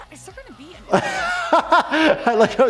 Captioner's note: laughs